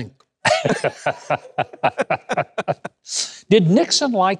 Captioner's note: laughing